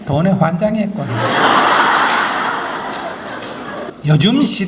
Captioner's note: audience Laughter